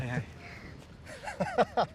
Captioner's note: laughs